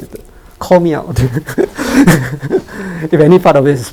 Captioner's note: laughs nervously